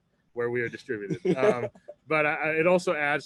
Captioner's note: laughs